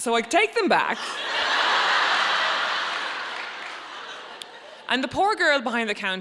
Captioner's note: audience laughing